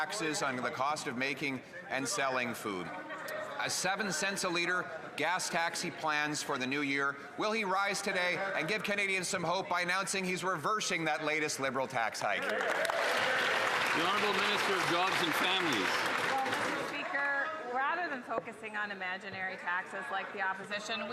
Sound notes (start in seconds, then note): 17.2 some Applause